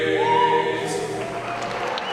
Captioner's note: audience applause